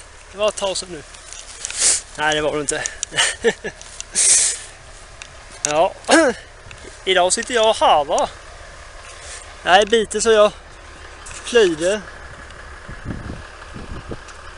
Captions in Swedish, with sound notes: Det var ett tag sen nu! Nä det var det inte. *Skrattar* Ja, idag sitter jag och harvar. Det här är biten som jag plöjde.